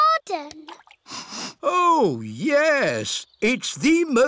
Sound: sniffs

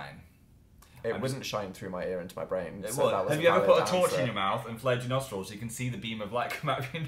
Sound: laughs

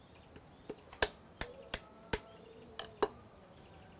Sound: sound of cracking a nut

